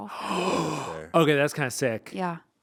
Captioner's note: gasping